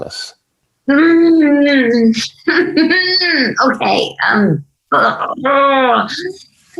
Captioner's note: chuckling